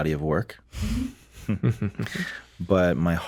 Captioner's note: all giggling